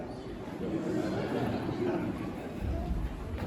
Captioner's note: laughter